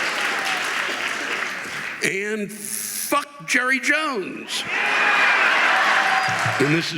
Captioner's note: audience applauding